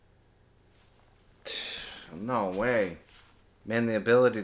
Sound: sigh

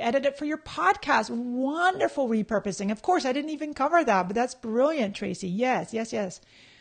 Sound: none

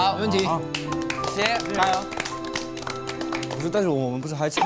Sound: all using applause to encourage themselves

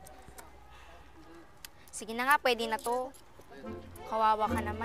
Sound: sighs

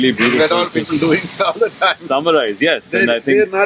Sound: laughs

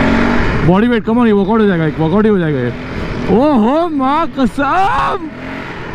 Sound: screaming In excitement

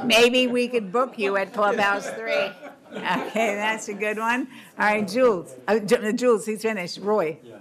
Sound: laughter

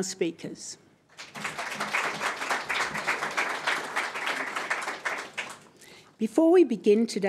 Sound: applause

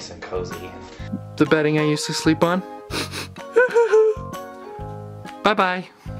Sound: sniffles

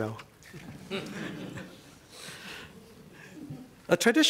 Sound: laughter

